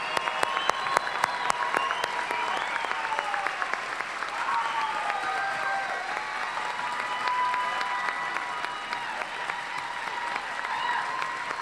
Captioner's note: cheers and applause